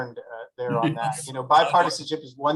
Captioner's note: Pfluger laughs